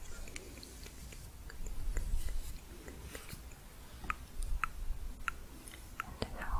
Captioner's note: tongue clicking